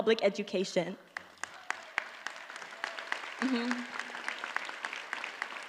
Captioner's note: audience applauds